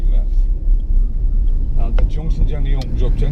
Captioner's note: indicator clicking